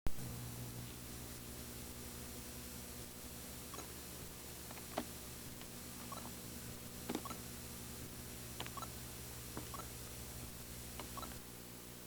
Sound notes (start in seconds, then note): 6.8 beeping